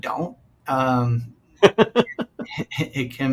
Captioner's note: laughing